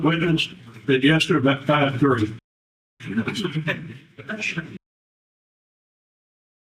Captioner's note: audience chuckles